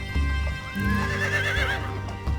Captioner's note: horse whinnies